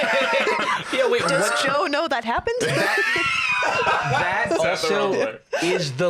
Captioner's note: laughs